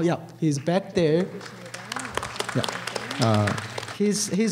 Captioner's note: applause